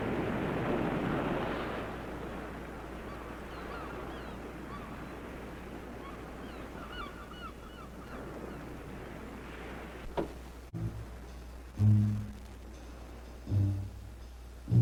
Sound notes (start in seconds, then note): 3.0 birds squawking; 10.6 jazzy dramatic music